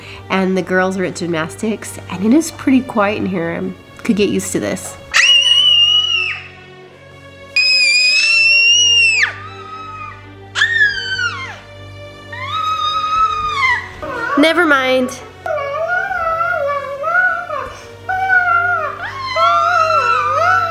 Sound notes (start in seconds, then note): 5.1 kids screeching; 10.5 baby squealing; 15.9 kids shouting and vocalizing